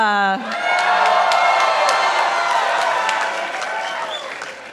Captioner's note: participants applauding